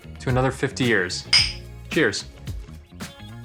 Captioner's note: glass clinking; smooth music